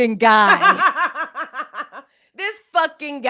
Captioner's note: laughs